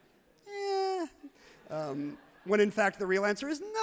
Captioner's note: crowd laughs happily